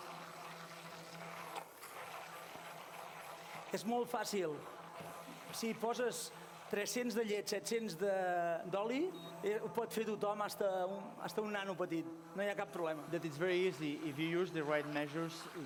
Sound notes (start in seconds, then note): 4.5 non-english speech